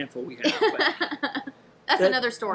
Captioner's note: laughing